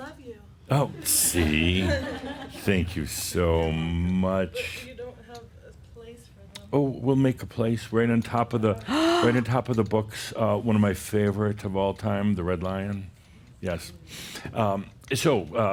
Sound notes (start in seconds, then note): 1.2 some chuckles; 8.8 gasps